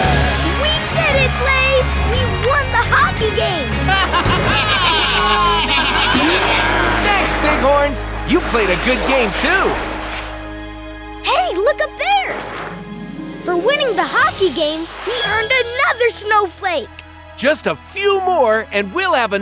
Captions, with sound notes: We did it Blaze, we won the hockey game! [baaing] Thanks bighorns, you played a good game, too. Hey, look up there! For winning the hockey game, we earned another snowflake. Just a few more and we'll have enough